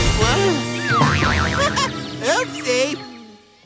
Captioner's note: chuckles